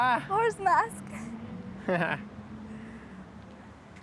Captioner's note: laughing